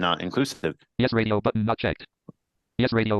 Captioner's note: computerized voice